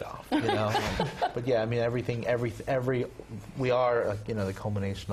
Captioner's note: laugh